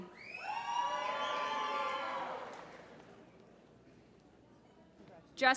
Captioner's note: applause